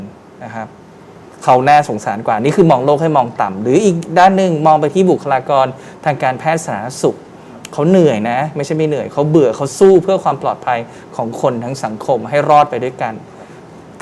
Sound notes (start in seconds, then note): none